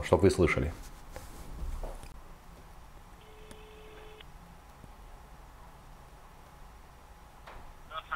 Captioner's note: dial tone